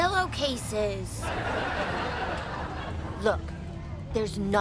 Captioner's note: audience laughing